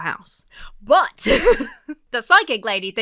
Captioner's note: laughs